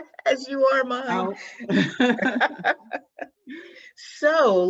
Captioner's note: laughing